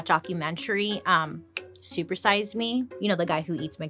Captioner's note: snaps fingers